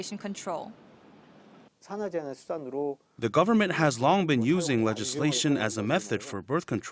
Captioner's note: Korean